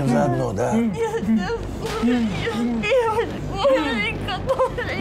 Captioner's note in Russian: через кляп